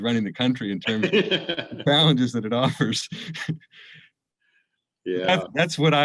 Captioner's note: laughter